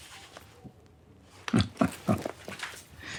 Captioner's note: Christopher chuckling